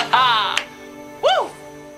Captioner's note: dramatic symphonic music; hand claps